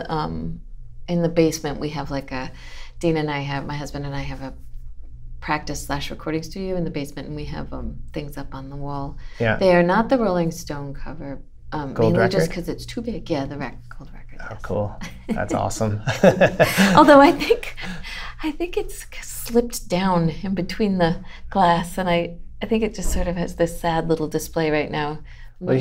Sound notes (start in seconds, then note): 15.0 laughter